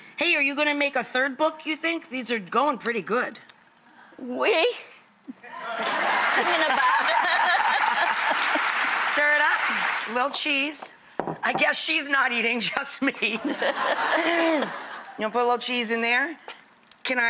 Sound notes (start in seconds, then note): 5.7 audience applause